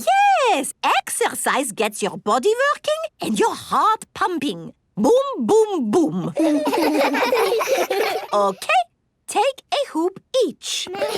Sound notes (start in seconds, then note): 6.3 laughs